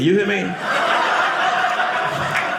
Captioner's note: audience laughing